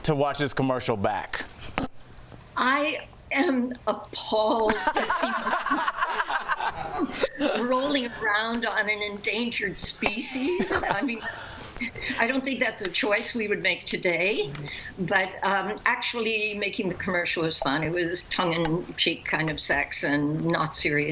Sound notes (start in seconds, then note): 10.2 laughter